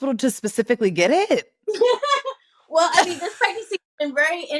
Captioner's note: laughs